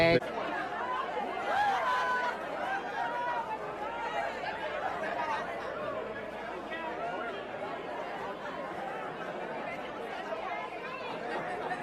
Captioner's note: crowd murmuring